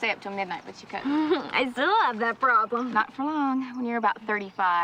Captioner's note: laughs